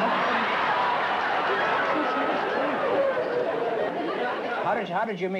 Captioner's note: laughter